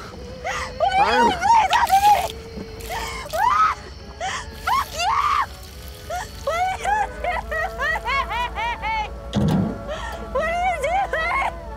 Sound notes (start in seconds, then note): 1.9 Liquid pouring on Stephanie and ground